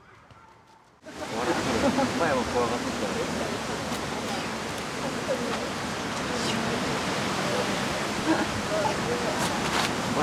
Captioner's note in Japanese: 風の音